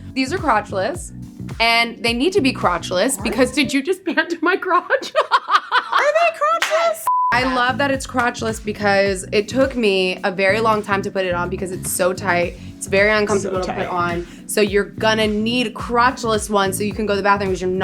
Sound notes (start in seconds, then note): 5.8 laughs; 7.0 beep